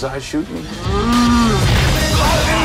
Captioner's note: cow moos; rock music